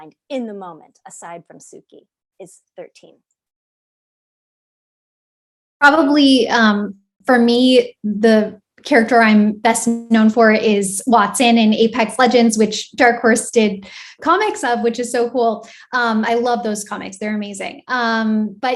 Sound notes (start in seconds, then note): none